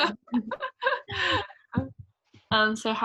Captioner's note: laughs